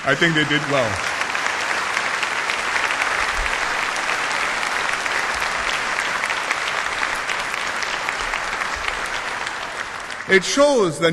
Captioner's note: applause